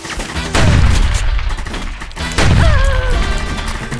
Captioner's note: shotgun blast